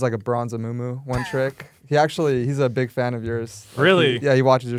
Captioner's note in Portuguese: risos